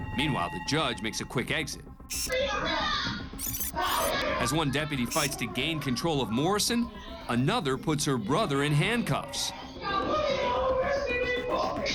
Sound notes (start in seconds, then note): 2.0 yelling